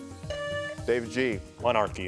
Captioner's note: buzzer buzzing